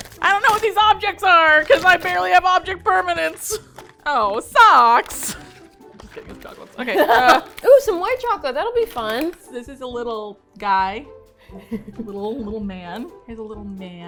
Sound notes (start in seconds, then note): 3.9 with disappointment; 6.8 laughs